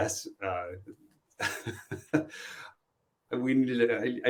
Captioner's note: laughs